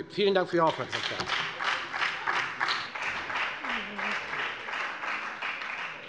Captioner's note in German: Beifall bei der FDP und bei Abgeordneten der SPD